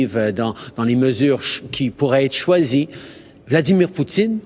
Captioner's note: speaking French